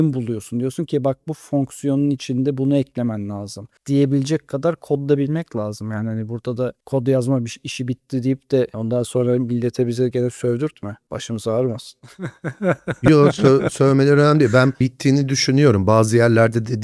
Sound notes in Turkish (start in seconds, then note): 12.0 kahkaha